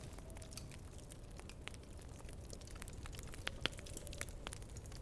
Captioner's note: fire crackling